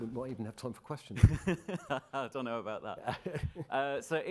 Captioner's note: laughing